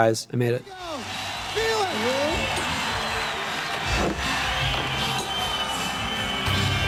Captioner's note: audience cheering